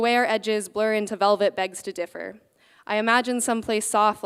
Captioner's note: none